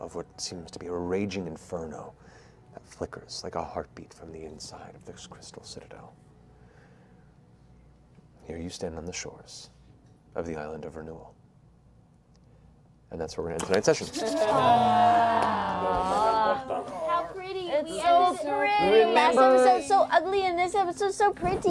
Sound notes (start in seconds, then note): 13.7 impressed noises